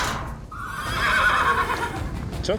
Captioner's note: horse brays